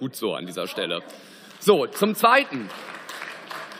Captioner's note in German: Beifall